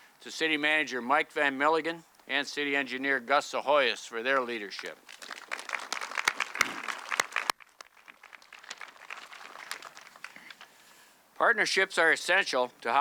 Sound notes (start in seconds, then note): 5.1 audience clapping